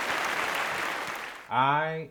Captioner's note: applause